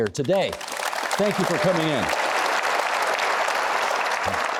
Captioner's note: applauding